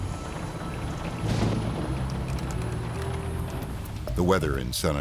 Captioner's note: thunderstorm rumbling